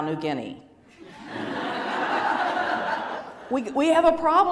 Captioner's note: laughter